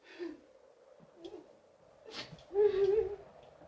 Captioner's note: woman sobbing